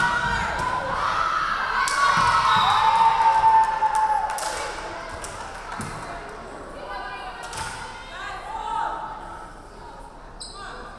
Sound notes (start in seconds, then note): 2.1 crowd cheering; 2.4 referee whistling